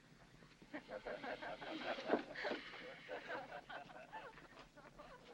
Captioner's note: women laughing